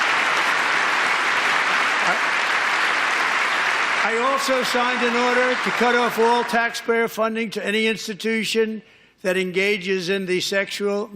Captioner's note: applause